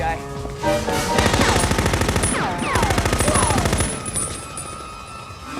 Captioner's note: machine gun firing